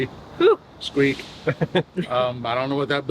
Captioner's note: laughs